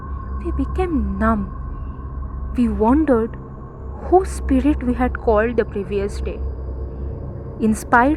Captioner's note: creepy sound intensified